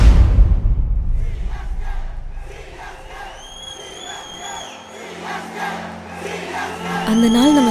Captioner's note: CSK fans chant religiously